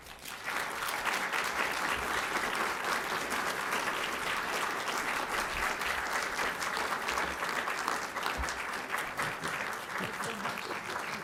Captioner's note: applause